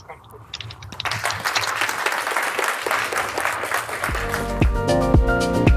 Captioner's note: audience clapping